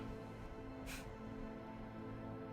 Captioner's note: scoffs